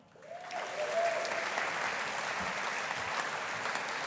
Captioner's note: audience applauding